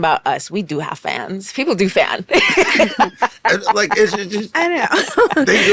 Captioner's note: laughs